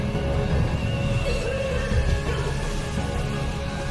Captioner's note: tosse